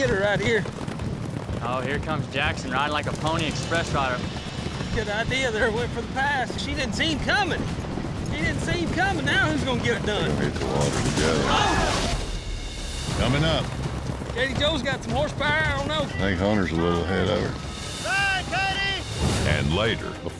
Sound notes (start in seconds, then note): 12.5 huge splash